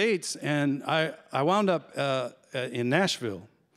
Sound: none

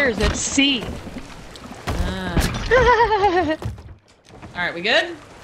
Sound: laugh

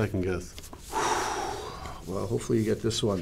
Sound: exhales deeply

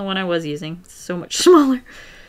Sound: laughs

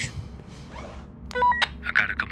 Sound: walkie talkie beeps

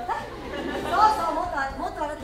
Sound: audience laughs

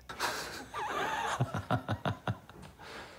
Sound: laughing

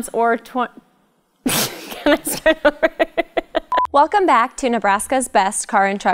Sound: laughter

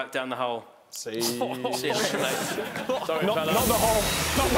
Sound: laughing

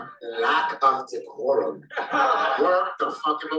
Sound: laughter

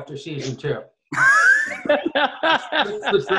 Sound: laughing

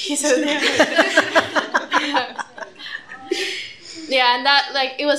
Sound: laughter

